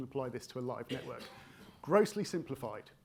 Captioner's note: attendee coughing